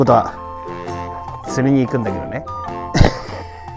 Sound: laughs

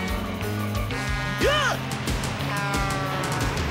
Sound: horns blaring; horn blaring; shrieks

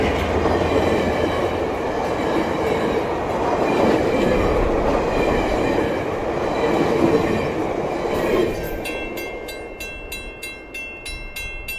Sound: loud GE chug and e-bell with doppler; passenger car trucks whooshing over crossing

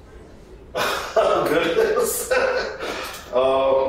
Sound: laughs

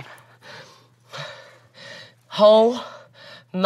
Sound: gasping

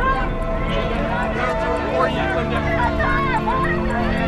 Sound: overlapping chatter

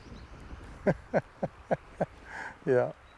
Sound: laughs

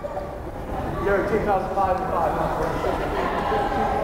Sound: crowd chattering

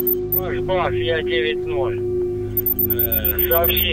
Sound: radio exchange

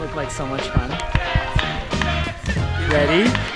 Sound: cheering

